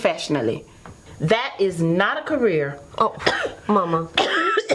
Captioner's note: coughs